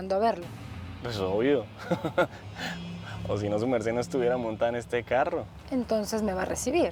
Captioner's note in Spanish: risas